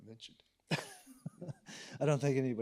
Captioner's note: laughs